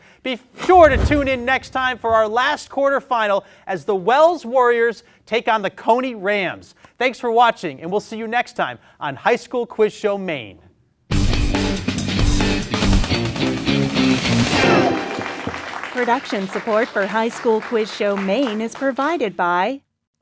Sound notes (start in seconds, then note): 10.9 lively music; 13.7 audience applauding